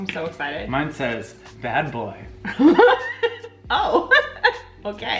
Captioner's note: laughs; laughing loudly